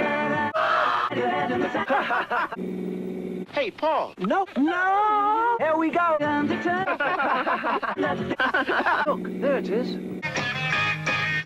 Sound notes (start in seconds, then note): 0.5 anguished robot screams; 0.6 hahahaha